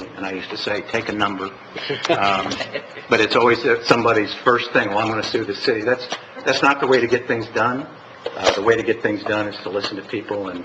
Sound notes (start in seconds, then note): 1.8 laughter